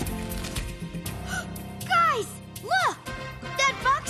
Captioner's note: gasps